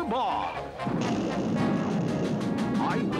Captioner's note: thunder cracking